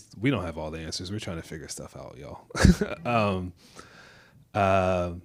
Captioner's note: laughs